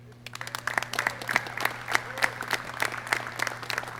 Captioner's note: clapping